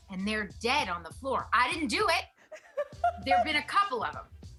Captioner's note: laughs